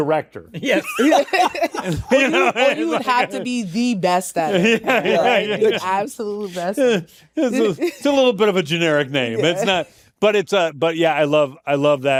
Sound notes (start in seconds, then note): 0.8 all laughing; 4.6 laughter continues